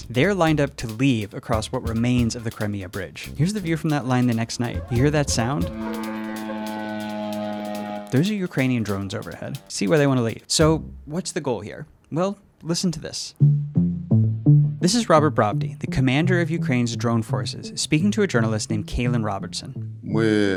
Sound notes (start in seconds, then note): 4.7 drones buzzing